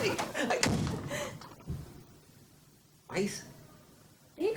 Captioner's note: Lulu giggling; door bangs